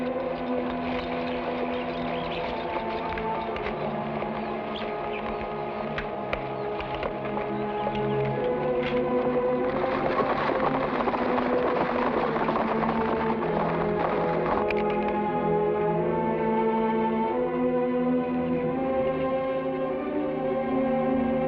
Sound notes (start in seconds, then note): 0.1 horse hooves patter; 8.6 suspenseful music; 10.3 horse hooves patter; 10.3 suspenseful music